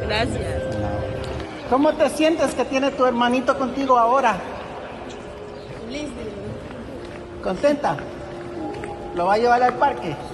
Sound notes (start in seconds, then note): 1.7 speaking Spanish; 5.7 lady speaking Spanish; 7.5 speaking Spanish